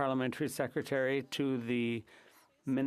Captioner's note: speaking FRENCH